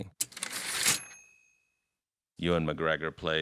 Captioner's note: typewriter ding